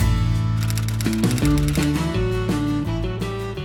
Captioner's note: typewriter clacking